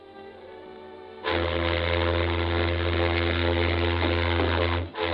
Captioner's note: ship horn blaring